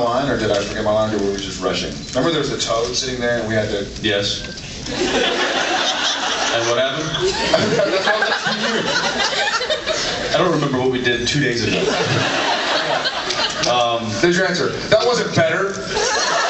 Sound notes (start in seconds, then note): 4.8 laughing; 11.6 laughs; 15.8 laughs and cheers